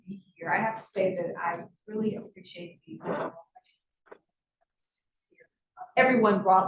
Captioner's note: sound distorted